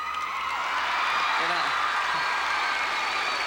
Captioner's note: crowd cheering